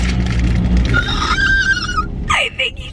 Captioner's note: excited squeal